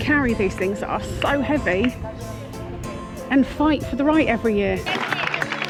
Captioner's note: applause